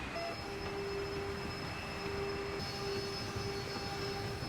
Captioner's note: machinery whirs